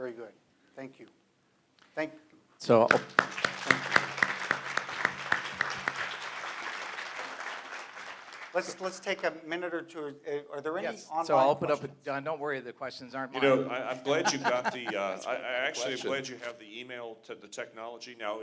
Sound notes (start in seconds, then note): 2.8 applause